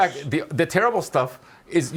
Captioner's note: laughing